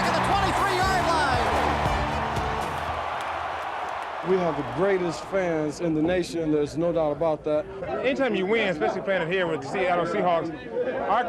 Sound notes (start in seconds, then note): 2.0 fans cheering